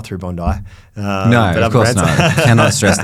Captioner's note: laughing